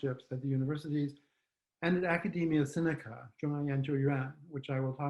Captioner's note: speaks faintly